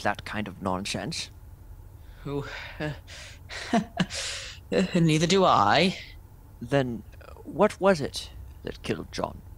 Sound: weak chuckle

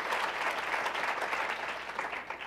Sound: applause

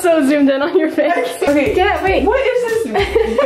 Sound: laughing

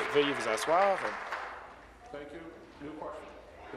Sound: applause

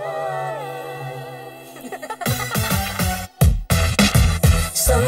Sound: chuckling

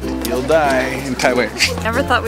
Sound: swishing noise

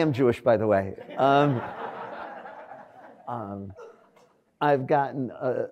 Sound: audience laughs

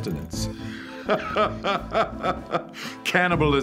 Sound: laughs

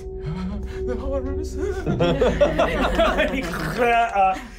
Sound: shuddering

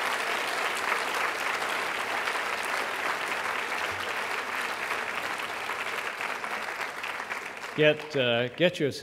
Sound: applause

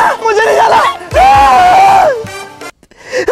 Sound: shouting

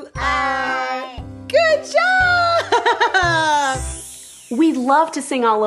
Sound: laughing

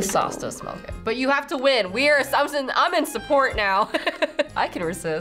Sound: laughs

